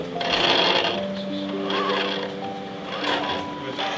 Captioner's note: robot whirring